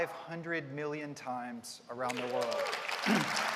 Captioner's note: applause